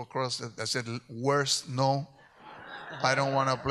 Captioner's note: audience laughs